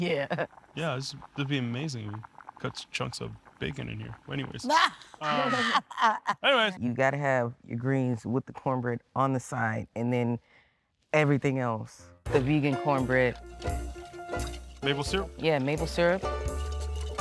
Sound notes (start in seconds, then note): 0.0 laughing; 5.2 laughing